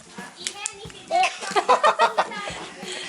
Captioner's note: laughter